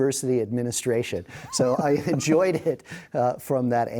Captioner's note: laughing